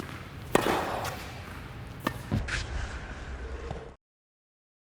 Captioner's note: racket hitting the ball